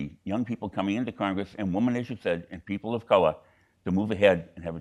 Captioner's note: none